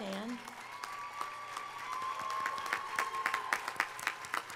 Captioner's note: audience applauding